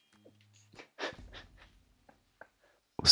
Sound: laughing

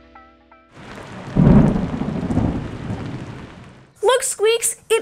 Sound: thunder and rain falling

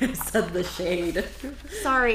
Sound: laughing

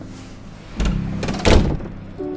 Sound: door shuts

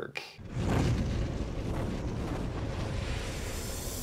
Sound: logo whooshes

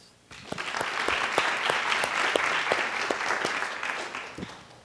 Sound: applause

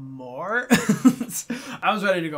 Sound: laughs

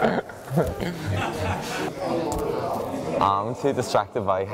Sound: laughter

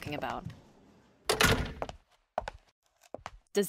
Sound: door opens then closes

